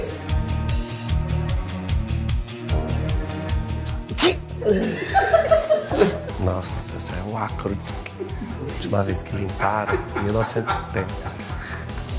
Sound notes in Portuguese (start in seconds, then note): 3.9 espirro; 4.8 risos